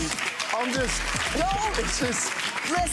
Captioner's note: audience laughs and claps